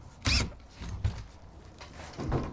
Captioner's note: drill whirring